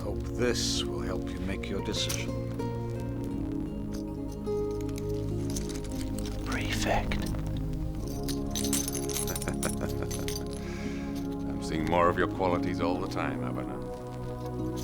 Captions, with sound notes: - I hope this will help you make your decision. - The prefect. (prefect laughing) - I've seen more of your qualities all the time, Aviner.